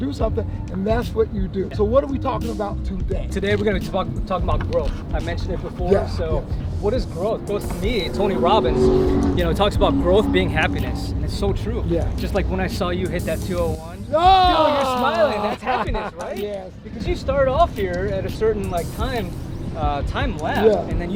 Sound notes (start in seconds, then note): 14.2 laughing